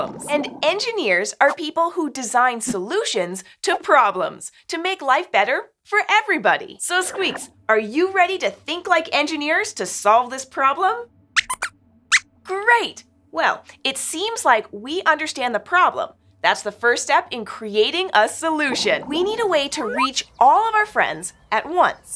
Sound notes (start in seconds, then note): 11.4 squeaks squeaks